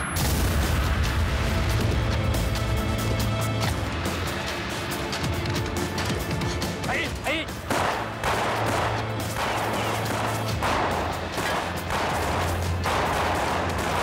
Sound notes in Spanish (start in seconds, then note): 2.8 explosión